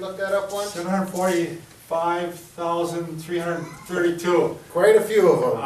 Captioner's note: chuckles